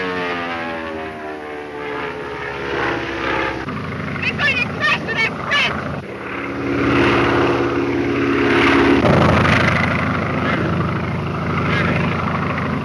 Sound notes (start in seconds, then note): 7.0 airplane engine roaring